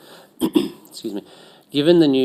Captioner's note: clears throat